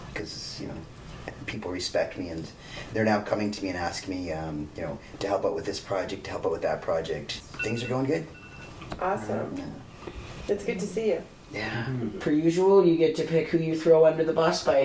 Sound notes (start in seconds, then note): 7.5 alarm ringing